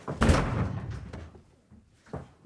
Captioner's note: door slams shut